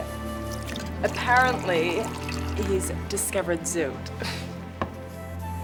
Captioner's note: laughs; slow soft music